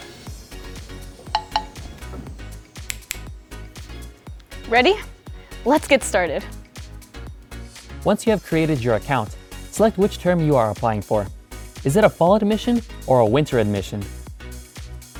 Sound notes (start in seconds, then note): 1.3 knocking; 2.8 snapping